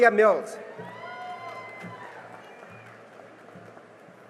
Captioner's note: cheering and applause